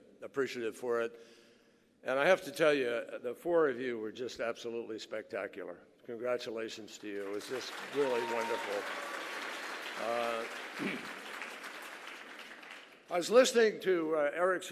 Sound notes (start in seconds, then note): 12.0 applause